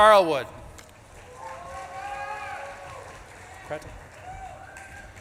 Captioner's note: audience claps and cheers